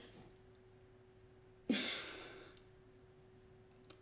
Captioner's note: sighs